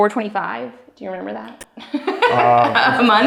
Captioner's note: laughing